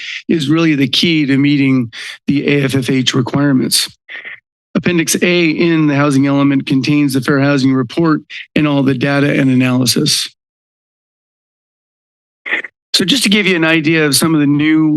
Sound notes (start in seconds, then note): 10.3 pause